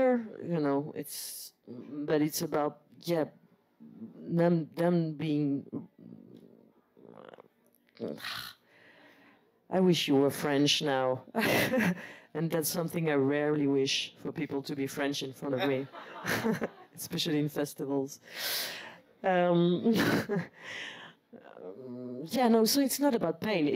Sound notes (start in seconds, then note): 11.2 laugh